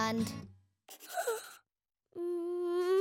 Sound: gasps

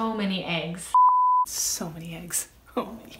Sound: beep

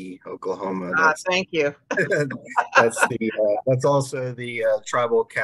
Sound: laughing

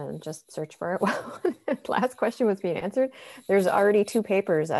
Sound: chuckles

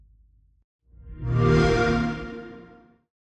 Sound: xbox whoosh

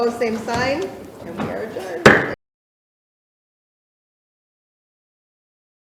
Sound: mallet thudding

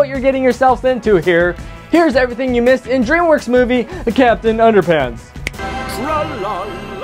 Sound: snap fingers

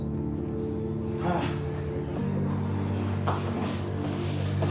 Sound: Pablo groans

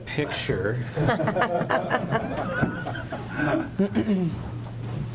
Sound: group laughs

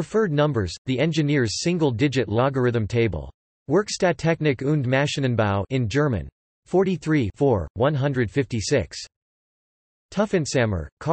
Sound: in German

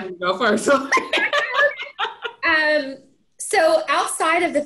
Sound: everyone laughing

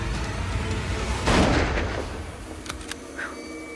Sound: gunshot

